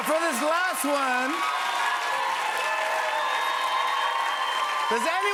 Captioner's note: cheers and applause